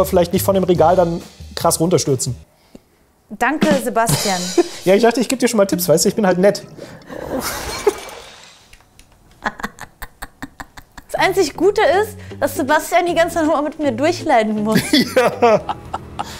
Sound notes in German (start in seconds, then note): 9.4 Durchtriebenes Kichern; 14.8 Finsteres Kichern